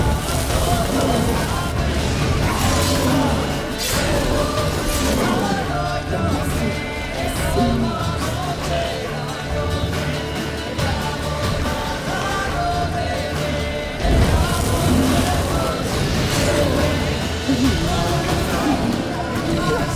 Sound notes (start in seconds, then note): 0.1 flames crackle; 14.1 flames crackle; 18.2 bellow